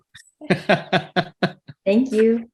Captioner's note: laughter